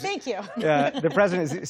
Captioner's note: laughter